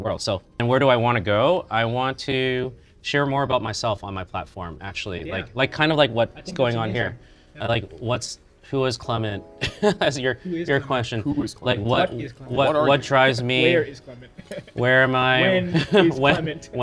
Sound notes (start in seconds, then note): 14.3 chuckles; 14.4 chuckles again